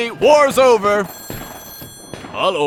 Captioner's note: ringtone